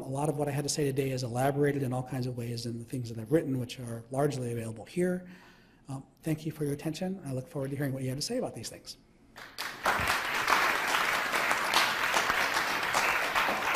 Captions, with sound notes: a lot of what I had to say today is elaborated in all kinds of ways in the things that I've written which are largely available here. Thank you for your attention. I look forward to hearing what you had to say about these things. (crowd applause)